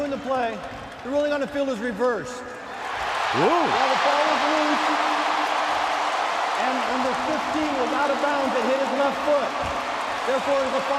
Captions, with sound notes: After reviewing the play, the ruling on the field is reversed. [cheering] Whoa. Whoa. While the ball was loose and number 15 was out of bounds, it hit his left foot.